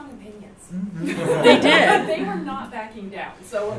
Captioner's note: laughter